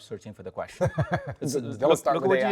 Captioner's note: Baratunde laughs